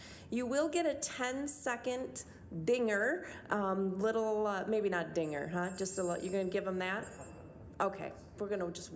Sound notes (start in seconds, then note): 5.2 bell dinging